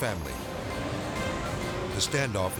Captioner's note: car revving